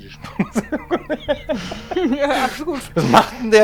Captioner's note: laughing